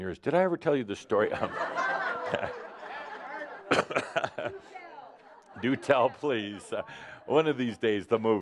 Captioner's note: laughter, someone says, “Haven’t heard of it” and “Do tell”